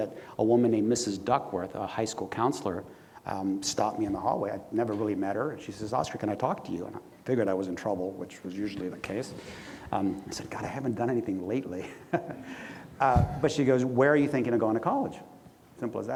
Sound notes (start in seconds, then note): 11.8 laughs